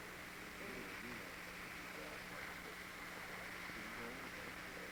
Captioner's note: men chatting